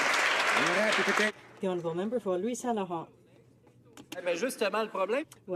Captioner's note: some Applause